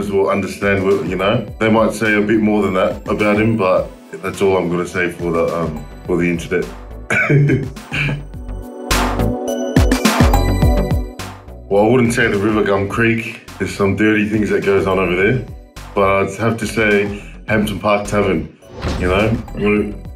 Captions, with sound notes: will understand. They might say a bit more than that about him, but that's all I'm going to say for the internet. [laughs] Well, I wouldn't say the River Gum Creek. There's some dirty things that goes on over there, but I'd have to say Hampton Park Tavern.